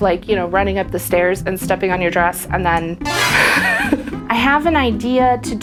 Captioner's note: cartoon Surprise Sound